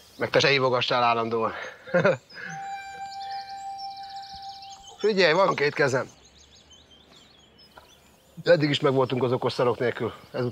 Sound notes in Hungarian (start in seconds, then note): 1.8 chuckles